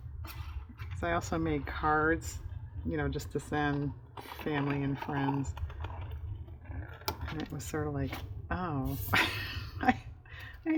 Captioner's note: laughs